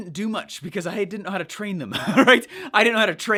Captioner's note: laughs